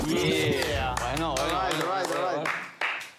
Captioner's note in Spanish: aplauden